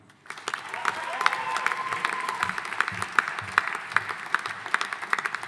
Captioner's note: audience applauding